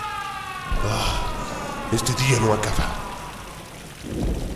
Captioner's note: sigh